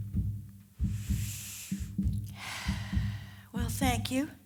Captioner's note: deep sigh